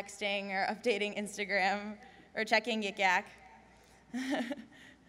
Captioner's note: laughs